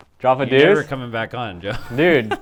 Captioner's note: laughs